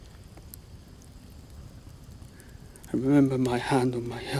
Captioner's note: fire crackling